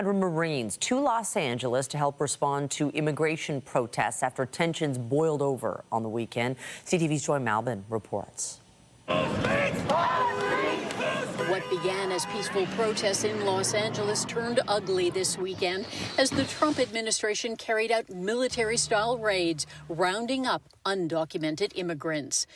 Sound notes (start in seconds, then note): 12.6 shouting; 14.4 chanting